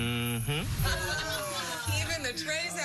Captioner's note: laughing